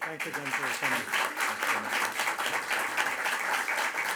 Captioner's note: audience applauds